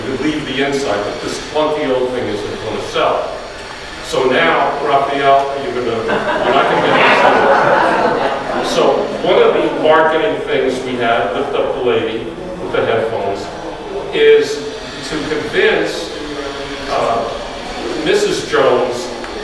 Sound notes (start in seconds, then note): 8.2 audience laughs